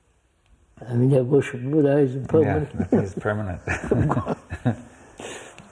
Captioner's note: laughs